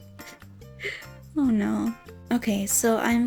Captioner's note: chuckles